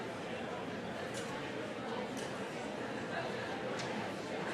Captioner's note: crowd noises for next half minute